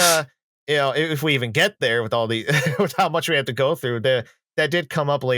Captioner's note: laughs